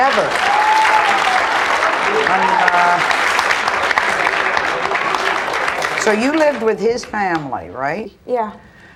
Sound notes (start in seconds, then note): 0.0 audience applauds; 0.0 audience cheers and applauds